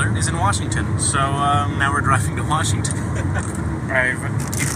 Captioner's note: laughs